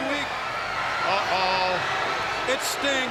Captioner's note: crowd cheering